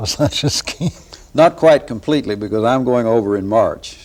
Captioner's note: laughter